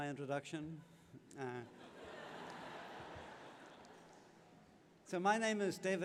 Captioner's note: laughter